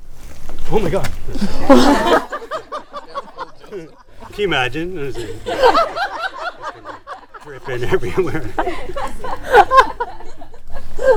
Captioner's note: group laughing; laughing